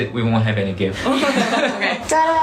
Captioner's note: laughing at the killer punch line